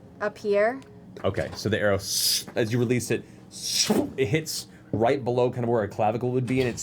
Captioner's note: whizz